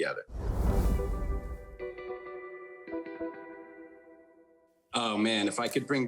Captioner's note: image whooshing; upbeat instrumental music